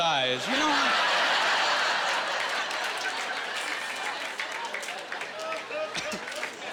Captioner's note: laughing